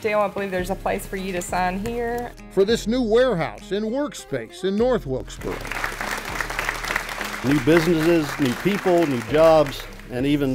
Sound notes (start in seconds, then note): 5.4 audience applaud